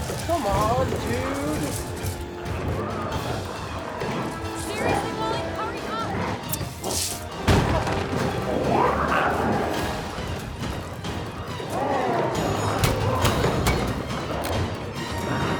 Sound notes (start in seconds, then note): 8.3 glowzies growling; 11.8 dramatic music continues